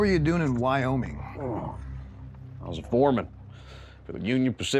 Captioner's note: grunts